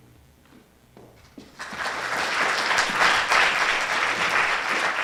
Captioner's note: audience applauding